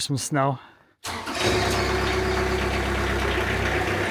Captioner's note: engine revving